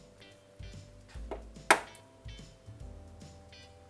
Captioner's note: egg cracking